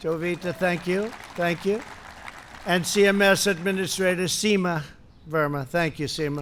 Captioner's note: applause